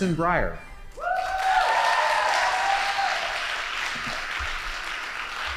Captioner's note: audience applauding